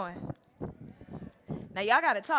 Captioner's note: crowd